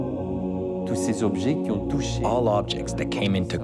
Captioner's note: speaks in foreign language